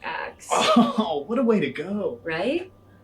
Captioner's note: laughs